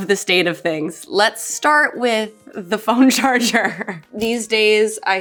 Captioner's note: chuckles